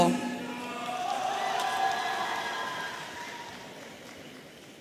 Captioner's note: audience cheering